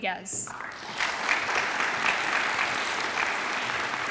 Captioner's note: audience applauds